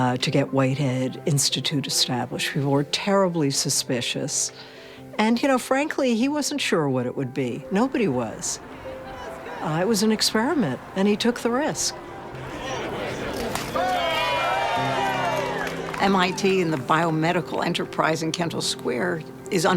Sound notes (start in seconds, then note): 13.3 crack; 14.2 cheering